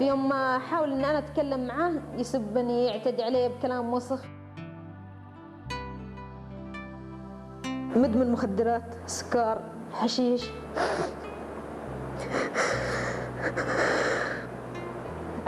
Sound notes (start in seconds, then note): 12.2 crying